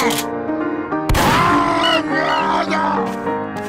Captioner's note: screams in Russian